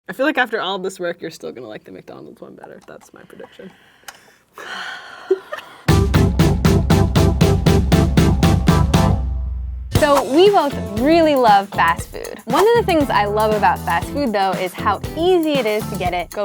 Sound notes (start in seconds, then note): 4.5 sighs; 6.6 upbeat music